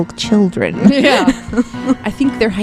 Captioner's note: laughing